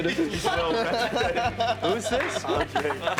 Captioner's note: people laughing